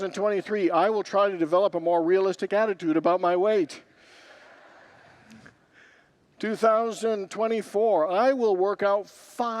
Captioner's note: congregants laugh